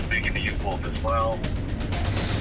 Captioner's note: officer on radio